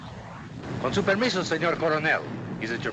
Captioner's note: in spanish